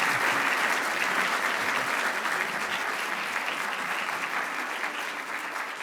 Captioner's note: applause continues